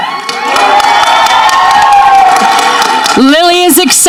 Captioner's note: audience cheering